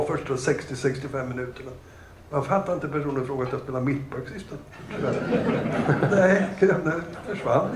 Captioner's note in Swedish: Skratt